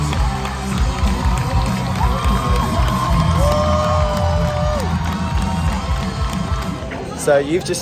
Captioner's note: applause